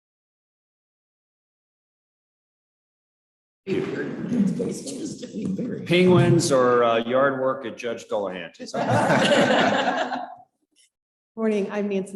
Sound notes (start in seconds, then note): 6.0 chuckling